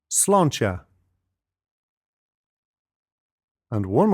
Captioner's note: speaks in foreign language